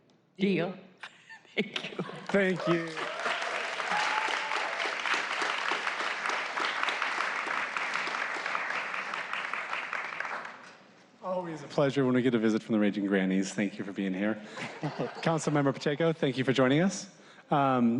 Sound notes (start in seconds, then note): 4.9 laughter; 11.4 applause